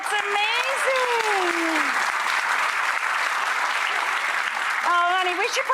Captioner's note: audience applauds